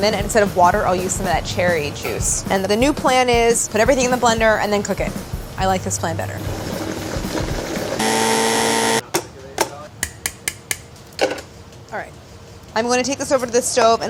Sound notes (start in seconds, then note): 8.0 whirring; 10.0 tapping